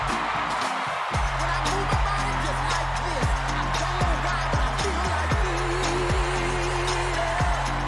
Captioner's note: applause